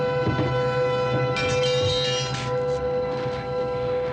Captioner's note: metal clanging